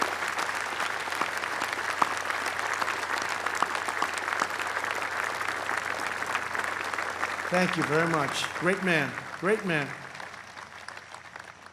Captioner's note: applause